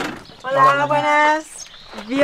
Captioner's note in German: auf Spanisch